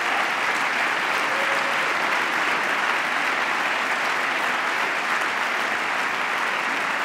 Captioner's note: applause